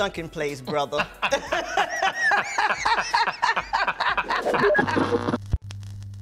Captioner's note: laughter